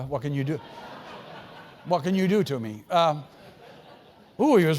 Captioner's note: laugh